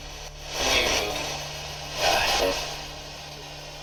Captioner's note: spirit box voice